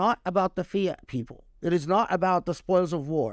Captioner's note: speaking Arabic